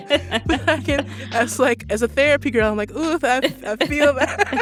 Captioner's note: laughter